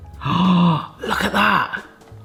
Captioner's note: gasps